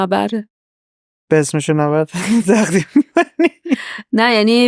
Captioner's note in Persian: خنده